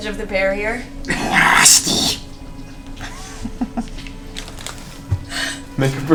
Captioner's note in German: Gollumstimme